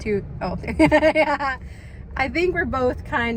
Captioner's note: laughs